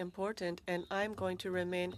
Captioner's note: speaking French